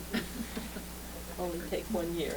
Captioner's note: laughter